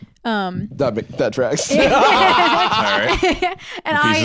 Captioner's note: all laughing